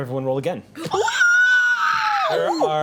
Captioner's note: group squeals